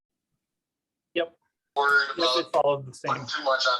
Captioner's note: radio interference drowns out speaker